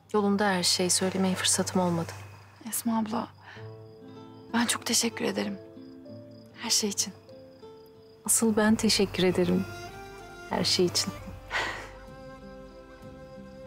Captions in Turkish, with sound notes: Yolunda her şey söylemeye fırsatım olmadı. Esma abla, ben çok teşekkür ederim. Her şey için. Asıl ben teşekkür ederim, her şey için. (Gülerler.)